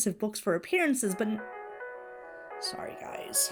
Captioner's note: ringtone plays